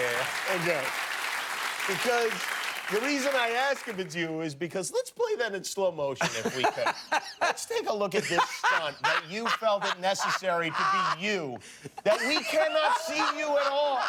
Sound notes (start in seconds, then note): 0.0 applause